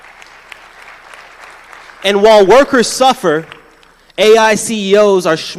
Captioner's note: applause